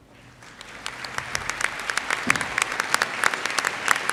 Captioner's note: audience applauds